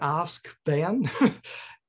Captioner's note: laughs